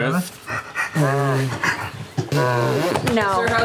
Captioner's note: panting; trumpeting